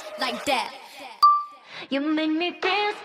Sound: soft beep

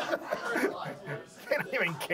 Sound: audience laughs

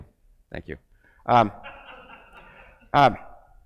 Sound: crowd laughs

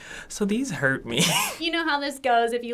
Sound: laughs

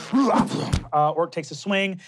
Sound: grunting; thump

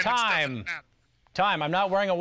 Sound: whistle blows

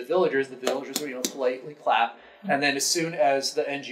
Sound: hands clapping

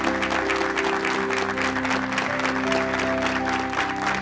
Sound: applause

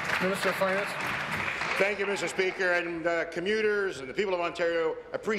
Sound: applause

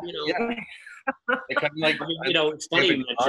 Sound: group laughing

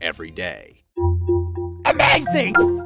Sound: electronic chiming

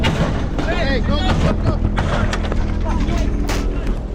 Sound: gunshots fired

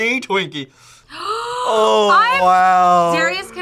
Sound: gasps

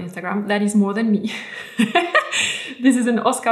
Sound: laughs

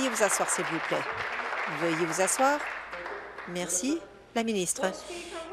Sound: applause

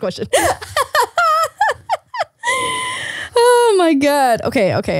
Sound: laughing

